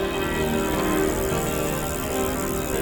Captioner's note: bike chain spinning